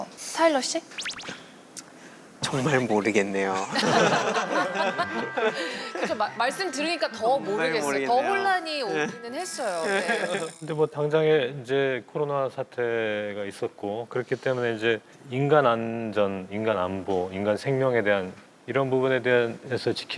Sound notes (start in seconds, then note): 3.5 laughing